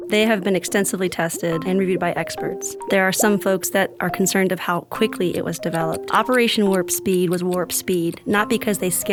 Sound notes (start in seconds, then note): 0.1 bubbling; 4.7 clock ticking